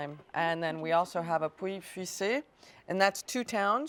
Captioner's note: speaking in a foreign language